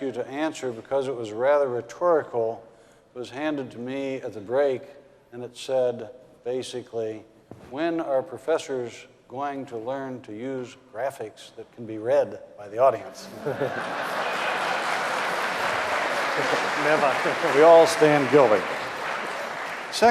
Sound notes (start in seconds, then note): 13.2 audience laughing; 13.4 applause